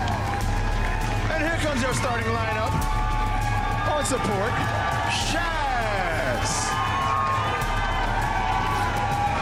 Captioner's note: applause